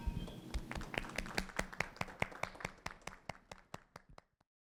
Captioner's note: clapping